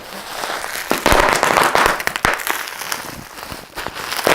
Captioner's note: popping